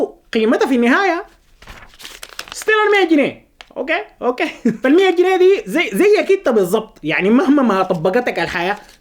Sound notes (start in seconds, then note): 4.4 laughter!